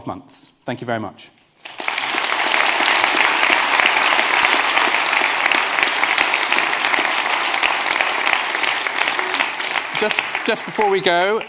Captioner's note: applause